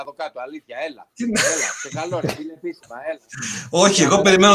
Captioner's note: γέλια